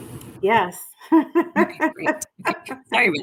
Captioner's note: laughs